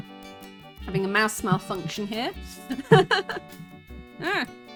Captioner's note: laughing